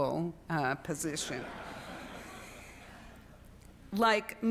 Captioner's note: students laughing